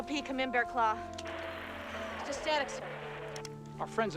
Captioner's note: static Continues